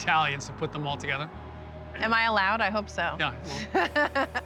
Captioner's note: laughs